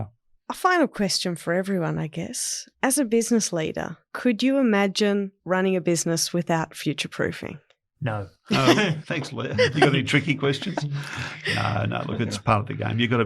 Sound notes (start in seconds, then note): 8.5 chuckles